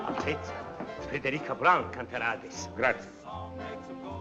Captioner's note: speaking Italian